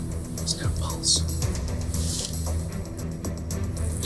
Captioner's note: whispers